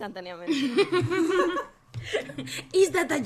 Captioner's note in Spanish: risas